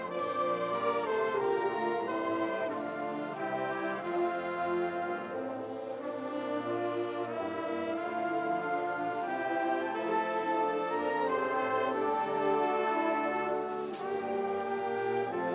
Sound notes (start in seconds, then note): none